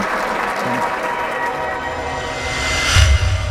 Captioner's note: applause